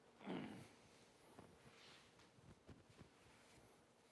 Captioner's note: grunting